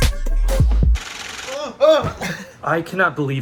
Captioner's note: exclaims